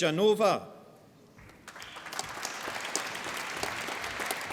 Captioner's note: applause